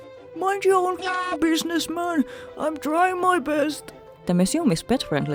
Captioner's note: mocking grandpa voice